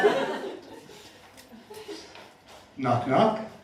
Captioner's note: laughter